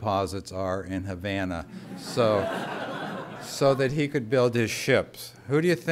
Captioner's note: laughter